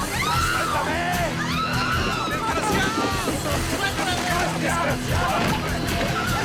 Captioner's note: people speaking in foreign language